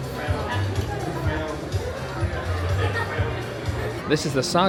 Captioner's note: guests chatting indistinctly continues